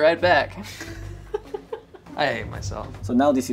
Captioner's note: laughs